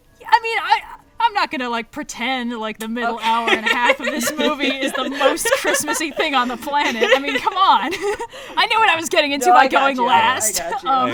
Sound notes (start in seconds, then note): 6.7 laughs